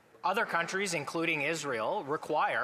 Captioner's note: speaking French